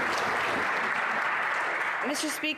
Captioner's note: some Applause